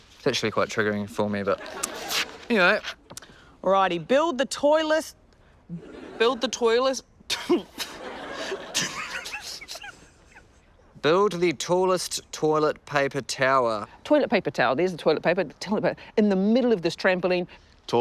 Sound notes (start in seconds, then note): 1.5 laughter; 5.7 laughter; 7.4 laughs